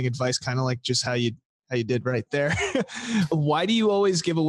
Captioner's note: chuckles